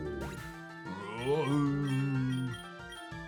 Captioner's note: growls